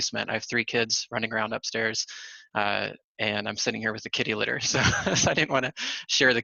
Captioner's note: laughter